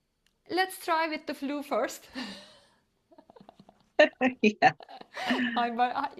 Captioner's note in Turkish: gülüşmeler